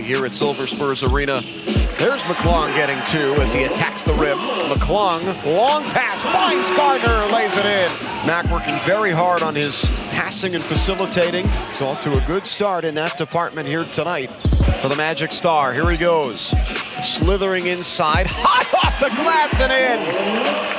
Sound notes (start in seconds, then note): 2.9 fans cheering